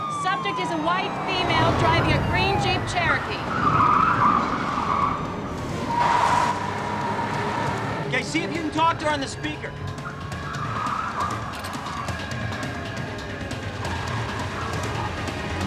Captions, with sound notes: Subject is a White female driving a green Jeep Cherokee. (tires screeching) - Okay, see if you can talk to her on the speaker. (thrilling music)